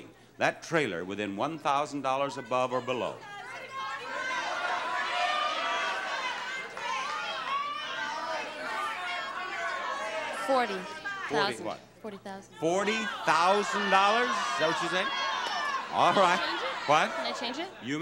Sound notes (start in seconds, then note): 3.1 audience babbling